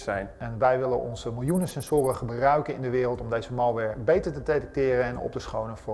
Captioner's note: speaking in foreign language